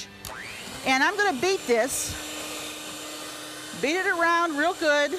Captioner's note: blender whirrs